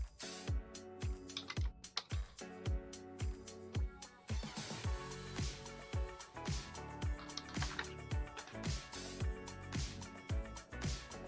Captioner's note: typing